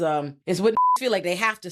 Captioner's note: beep